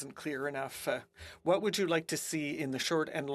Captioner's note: speaking French